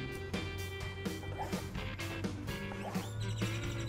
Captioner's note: knife slicing